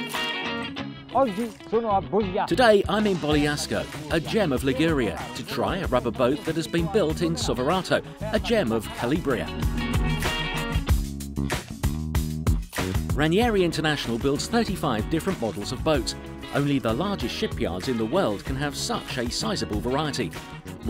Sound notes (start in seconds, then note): 1.2 speaks foreign language; 10.7 upbeat rock music